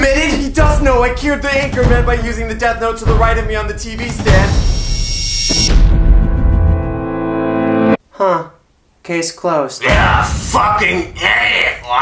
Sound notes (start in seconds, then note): none